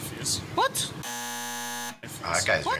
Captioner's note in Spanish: zumbador